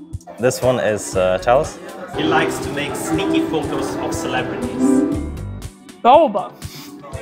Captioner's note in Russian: Голос за кадром